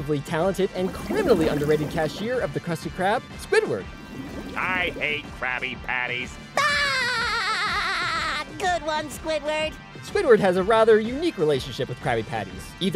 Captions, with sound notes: and criminally underrated cashier of the Krusty Krab, Squidward. I hate Krabby Patties. [laughing] Good one, Squidward. Squidward has a rather unique relationship with Krabby Patties, either eating them